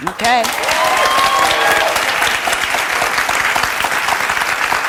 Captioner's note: audience applauds